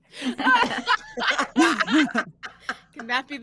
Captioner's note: all laughing